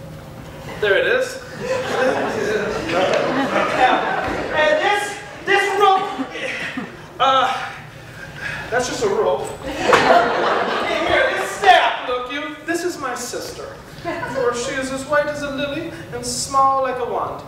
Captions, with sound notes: there 'tis! [Audience laughter] And this, this rope. Uh, that's just a rope. [Audience laughter] And here this staff, look you, this is my sister, for she is as white as a lily and small like a wand.